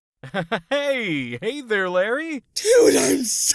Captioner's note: awkward laughing